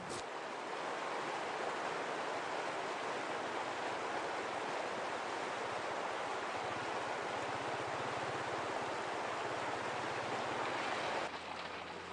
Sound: sound of river flowing

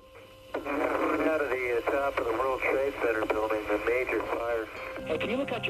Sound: Bavardage radio

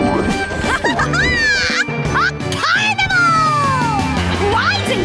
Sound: laughing

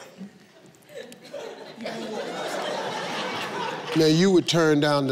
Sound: audience laughing

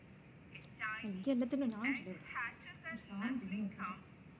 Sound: murmuring

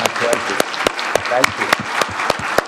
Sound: audience applauding

